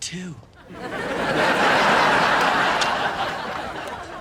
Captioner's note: audience laughing